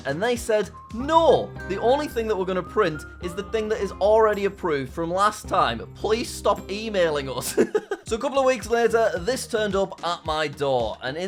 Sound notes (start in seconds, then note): 7.5 laughs